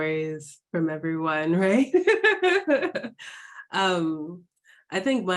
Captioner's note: laughing